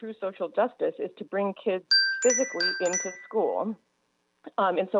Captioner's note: chime